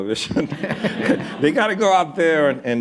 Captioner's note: laughter